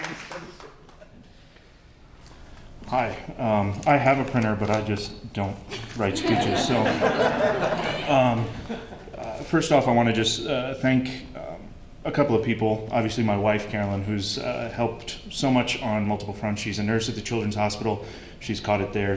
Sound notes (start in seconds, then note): 6.1 laughter